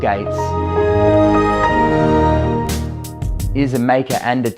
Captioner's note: Windows startup noise